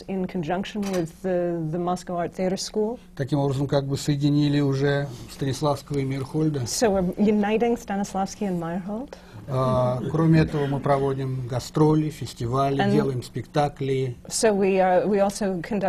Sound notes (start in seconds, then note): 0.0 foreign language not transcribed; 3.5 foreign language not transcribed; 9.5 laughter